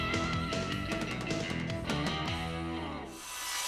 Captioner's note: saw whirring